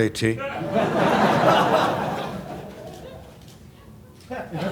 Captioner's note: laughter